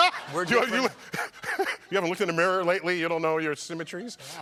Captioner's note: laughter